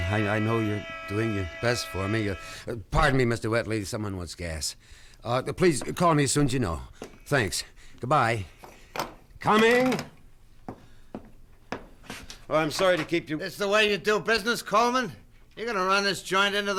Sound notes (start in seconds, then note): 3.5 horn honks; 9.4 phone hangs up